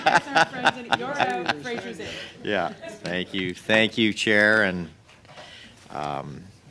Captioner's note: laughter